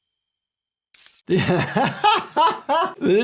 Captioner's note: laughs